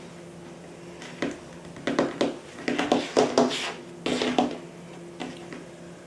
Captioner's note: plays pretend piano on tabletop